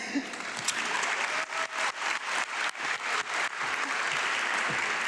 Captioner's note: audience clapping